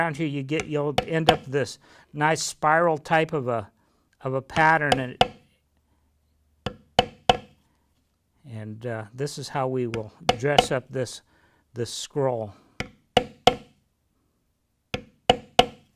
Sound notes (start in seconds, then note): 4.5 tapping